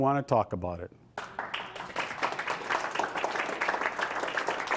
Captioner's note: applause